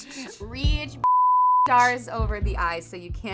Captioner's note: beeping sound